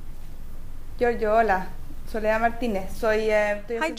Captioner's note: speaking spanish